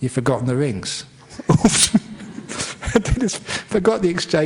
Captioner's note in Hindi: हँसी